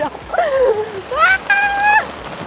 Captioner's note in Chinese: 慘叫聲